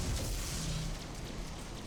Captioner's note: explosion